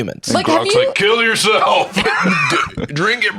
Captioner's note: laughs